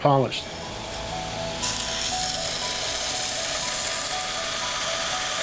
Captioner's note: grinding sounds